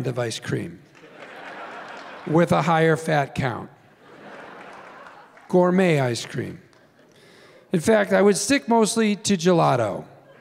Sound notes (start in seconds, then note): 1.0 laughter; 4.1 laughing